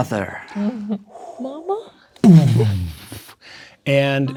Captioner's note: imitating explosion